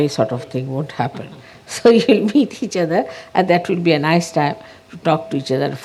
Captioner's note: Shri Mataji laughing